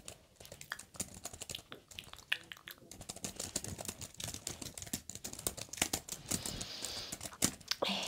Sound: keyboard sound

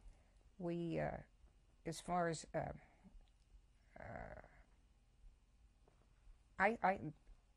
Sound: pauses for 3 seconds

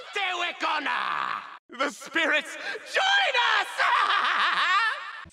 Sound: hysterical laugh

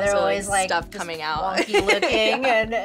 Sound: laughs

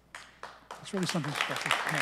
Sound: applause

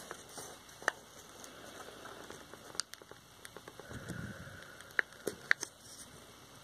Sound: the sound of an inhale and exhale

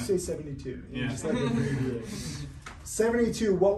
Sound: laughing

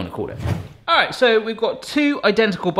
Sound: wind gust transition effect

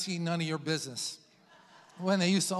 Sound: congregation laughs

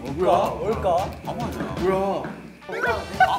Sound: feet stomping

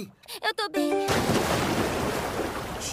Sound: slap in the water

